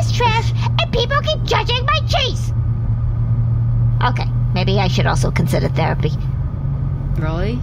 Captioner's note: quietly